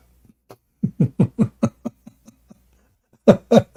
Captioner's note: Ketawa